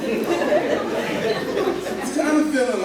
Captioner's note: laughter